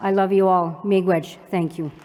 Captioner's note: non-english